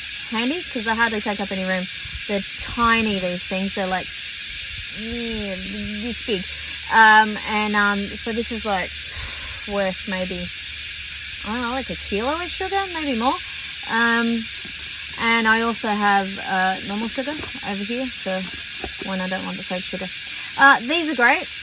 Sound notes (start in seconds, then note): 4.3 makes noise that somehow means 'tiny'??